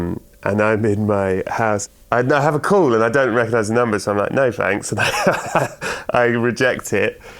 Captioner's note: laughter